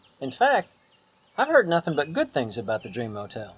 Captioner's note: none